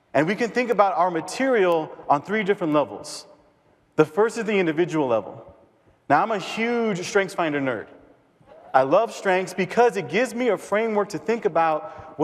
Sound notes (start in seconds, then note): 8.6 cheers